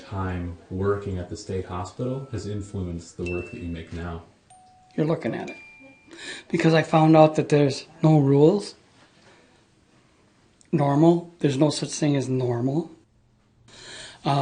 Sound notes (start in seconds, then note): 0.0 voiceover; 6.1 voiceover